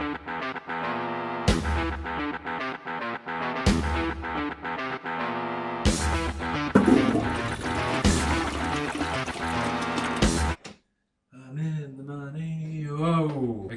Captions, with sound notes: *toilet flushing* *toilet door opens* I'm in the money... Woah!